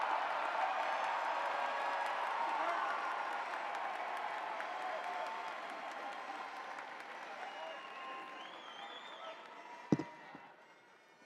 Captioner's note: cheering